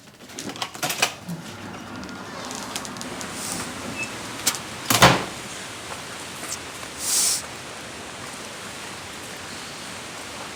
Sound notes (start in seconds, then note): 0.6 door creaks; 4.9 door slams; 4.9 wind rustling